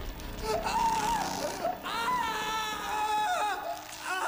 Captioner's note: screams